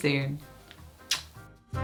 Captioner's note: kiss